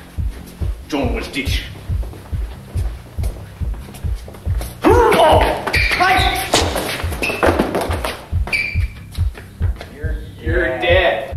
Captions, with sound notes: [speaks Klingon] [struggling sounds] - You're dead. - You're dead.